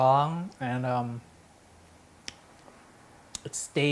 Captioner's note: lips smacking